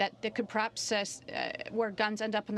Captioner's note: speaking in french